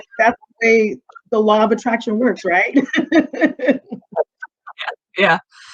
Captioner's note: chuckling